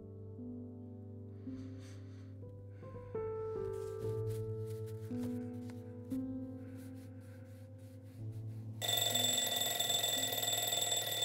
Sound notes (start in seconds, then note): 1.2 breathe; 8.8 alarm clock ringing